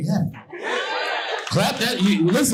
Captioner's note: audience laughing